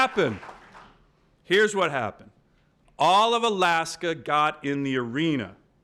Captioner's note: applause